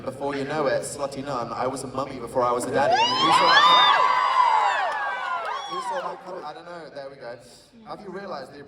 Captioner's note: applause